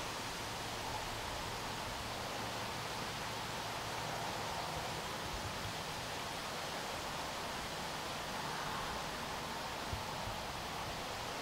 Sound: wind

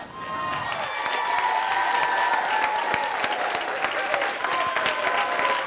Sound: all applauding and cheering

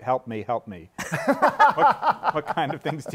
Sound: laughter

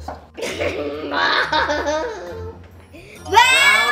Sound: laughs

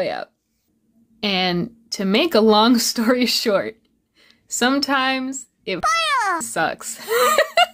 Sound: laughs

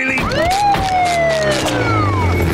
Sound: siren wailing

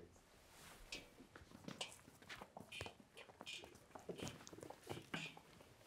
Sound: footsteps clicking on floor

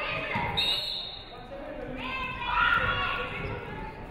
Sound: referee whistles

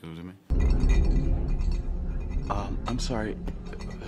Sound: glass clinking

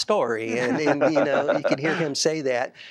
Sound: laughter

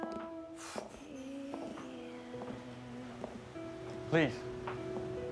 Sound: sighs

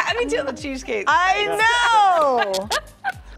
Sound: laughter

